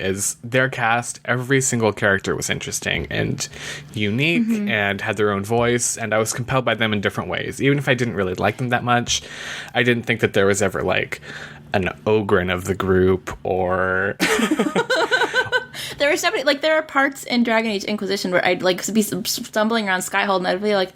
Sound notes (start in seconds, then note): 14.3 laughs